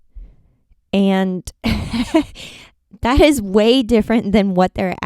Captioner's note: chuckles